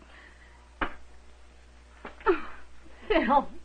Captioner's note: crying